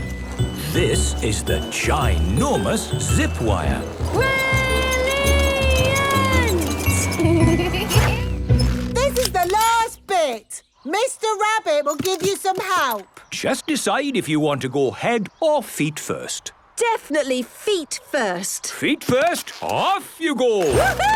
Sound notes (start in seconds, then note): 7.6 laughing